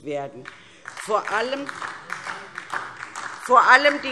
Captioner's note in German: Beifall DIE LINKE